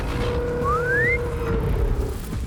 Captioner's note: whistle